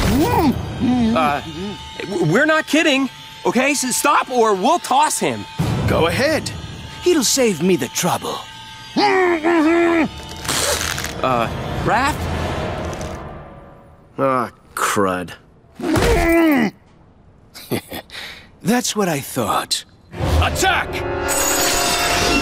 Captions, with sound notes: Uh, we're not kidding. Okay, s-stop or we'll toss him. Go ahead. It'll save me the trouble. [grunting] Uh, Raph? Aw, crud. [grunting] [chuckles] That's what I thought. Attack!